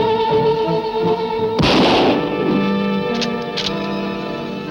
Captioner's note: gun roaring